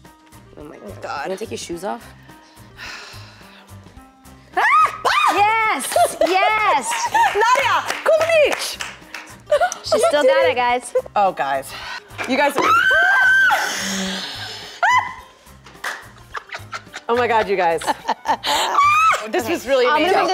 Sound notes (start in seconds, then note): 4.6 screaming; 5.8 clapping; 9.4 laughing; 12.6 screaming; 16.2 laughter